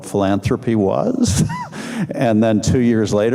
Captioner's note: laughing